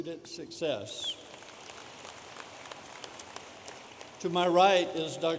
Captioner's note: audience applauding